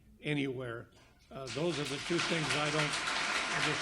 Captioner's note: audience applauds